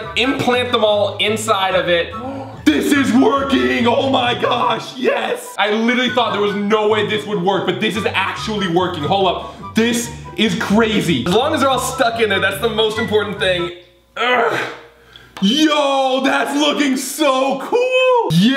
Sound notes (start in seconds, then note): 2.1 gasps; 14.2 grunting